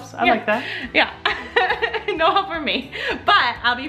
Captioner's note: laughs